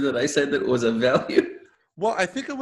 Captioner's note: laughing